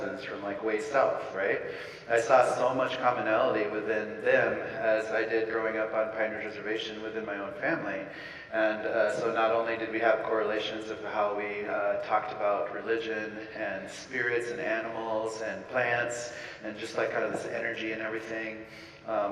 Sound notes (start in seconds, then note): none